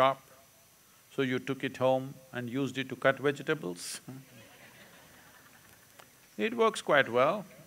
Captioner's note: laughter